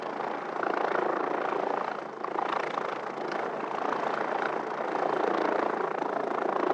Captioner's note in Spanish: Ruido de helicóptero